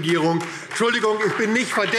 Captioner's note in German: Beifall DIE LINKE und SPD